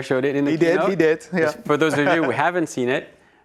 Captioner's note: laughs